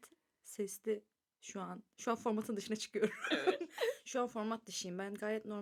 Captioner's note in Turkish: kahkaha